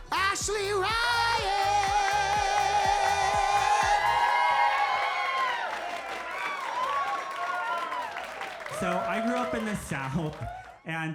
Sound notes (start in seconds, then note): 4.0 crowd cheers